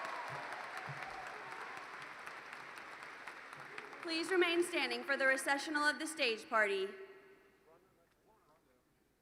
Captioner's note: cheers and Applause